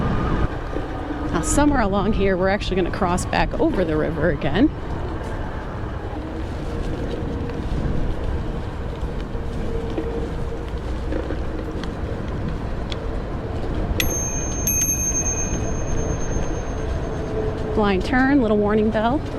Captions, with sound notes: somewhere along here, we're going to cross back over the river again [bell ringing] blind turn, a little warning bell